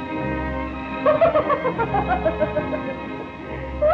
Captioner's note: mrs. potter laughing